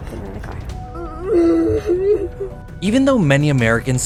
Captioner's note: crying